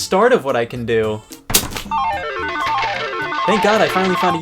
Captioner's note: playful sound